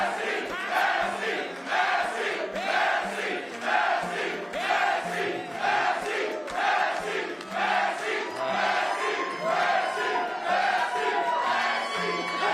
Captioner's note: chanting "massie"